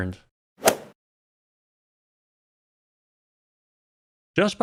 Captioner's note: golf ball hit sound